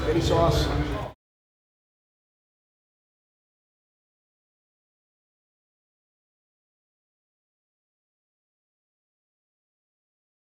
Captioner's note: silence